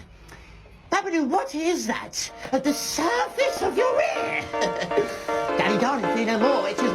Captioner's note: chuckles